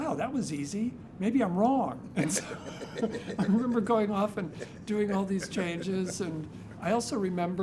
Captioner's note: laughs